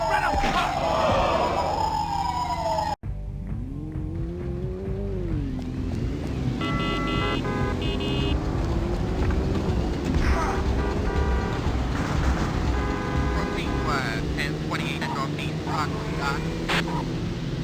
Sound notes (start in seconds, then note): 0.0 police sirens blaring; 4.2 car engine revving; 7.1 car horns blaring; 14.2 police radio chatter